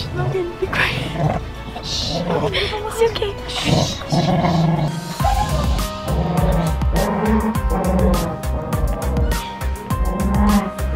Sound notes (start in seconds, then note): 5.5 dramatic music; 6.6 dog growling